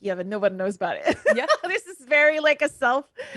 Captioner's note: laughs